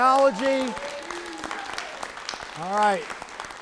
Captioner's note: people cheering